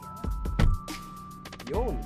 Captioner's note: door thuds